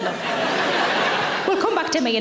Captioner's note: audience laughing